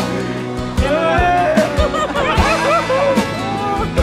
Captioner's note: cheers and laughter